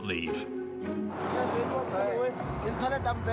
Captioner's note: Portuguese spoken audio